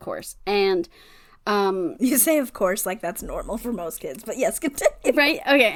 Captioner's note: laughs